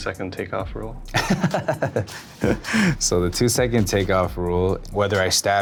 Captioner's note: laughs